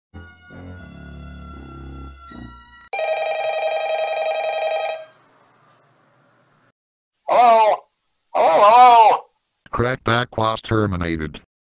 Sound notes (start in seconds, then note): 2.9 phone rings